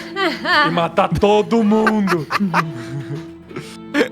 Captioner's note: laughter